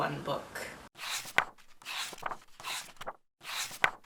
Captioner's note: pages turning